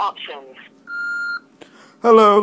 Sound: beep

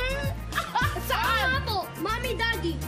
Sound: giggles

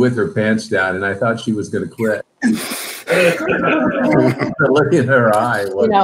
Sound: members laugh

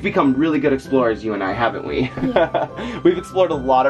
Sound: chuckles

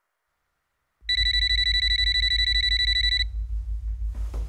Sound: continues ringing

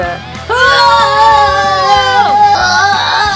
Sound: yelling

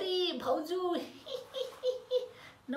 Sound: giggling

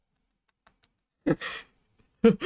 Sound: more scared laugh; scared laugh

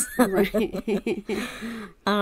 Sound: laughs

